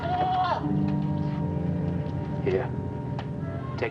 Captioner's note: goat bleating